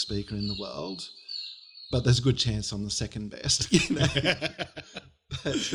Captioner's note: laughter